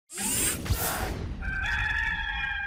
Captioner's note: logo whooshing; rooster crowing